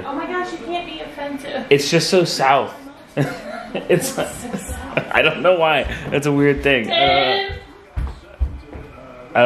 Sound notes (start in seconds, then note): 3.2 chuckles